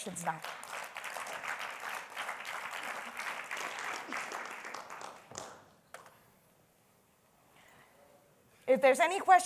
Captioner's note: applause